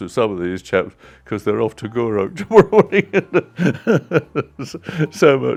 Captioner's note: laughs